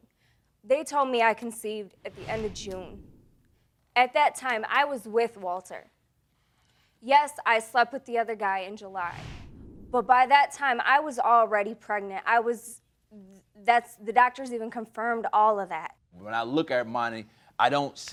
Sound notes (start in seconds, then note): none